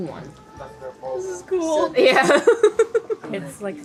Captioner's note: giggles